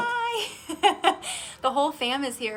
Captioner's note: laughs